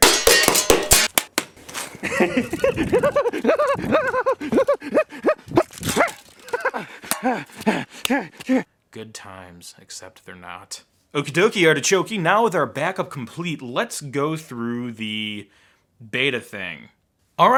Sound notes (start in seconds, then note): 2.0 giggling; 7.0 panting